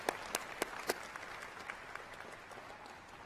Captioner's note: applause